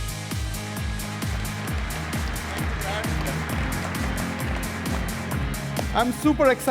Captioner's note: applause